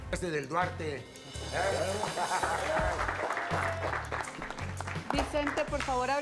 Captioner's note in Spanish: aplausos